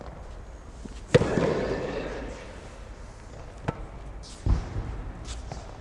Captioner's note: racket hitting the ball